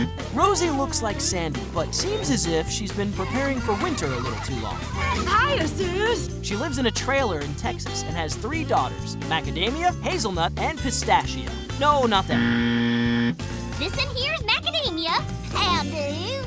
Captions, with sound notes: Rosy looks like Sandy, but seems as if she's been preparing for winter a little too long. Hiya, sis! She lives in a trailer in Texas and has three daughters, Macadamia, Hazelnut and Pistachio. No, not that. [buzzer] - This one here is Macadamia. - How do you?